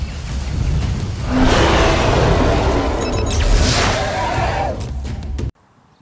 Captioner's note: A very close roar